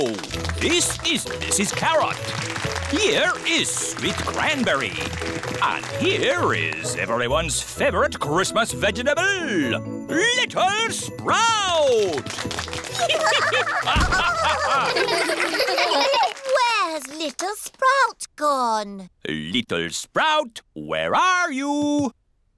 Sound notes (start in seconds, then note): 1.8 applause; 11.7 applause; 12.9 all giggling